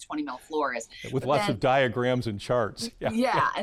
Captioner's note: chuckles